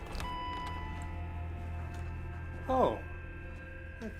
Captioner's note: door bell dinging